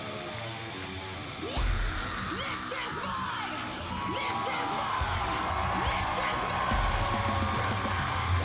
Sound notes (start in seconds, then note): 1.7 screams